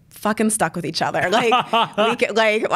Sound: laughs

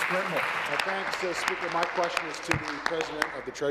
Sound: applause

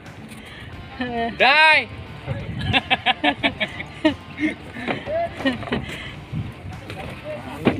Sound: laughs

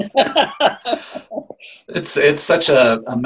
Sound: laughing

